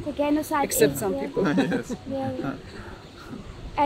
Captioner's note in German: lacht